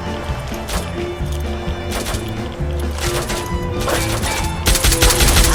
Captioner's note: irregular beats of gunfire and explosions